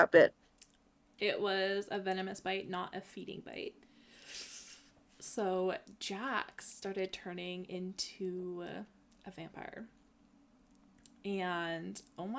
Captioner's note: sucks in air